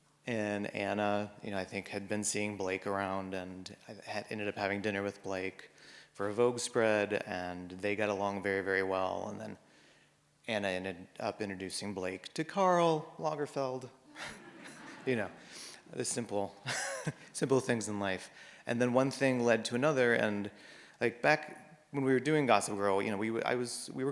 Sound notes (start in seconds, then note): 14.1 audience laughs; 16.6 chuckles